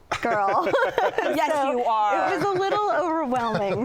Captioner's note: laughter